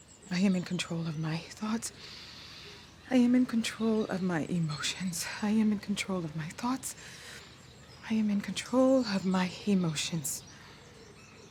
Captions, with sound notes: I am in control of my thoughts. [inhales] I am in control of my emotions. I am in control of my thoughts. I am in control of my emotions.